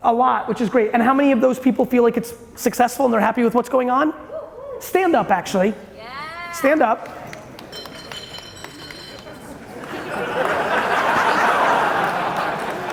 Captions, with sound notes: A lot, which is great. How many of those people feel like it's successful and they're happy with what's going on? Stand up actually. Stand up. (bottle rolling across the floor) (audience laughing)